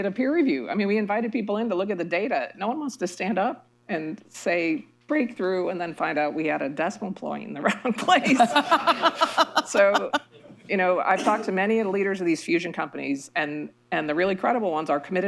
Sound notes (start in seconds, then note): 7.7 laughter